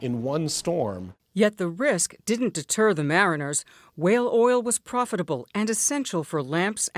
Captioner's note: voice-over